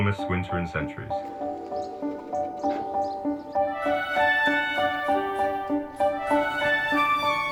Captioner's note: cheerful music; birds chirping